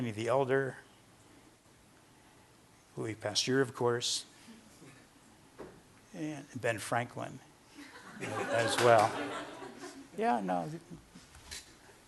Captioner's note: laughter